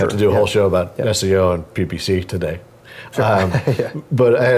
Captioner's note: laugh